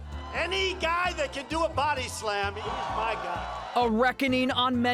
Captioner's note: cheers, applause